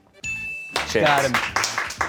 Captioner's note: bell chimes